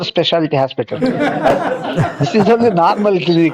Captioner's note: laughs